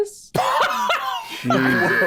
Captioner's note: Brennan laughs